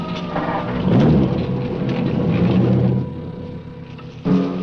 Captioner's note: engine cranks; dramatic music